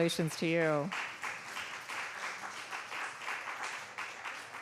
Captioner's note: applause